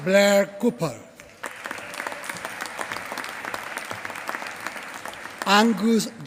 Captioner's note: applause